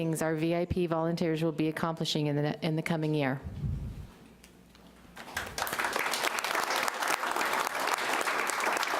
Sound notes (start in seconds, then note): 5.2 applauding